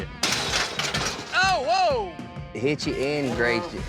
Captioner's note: gates clanking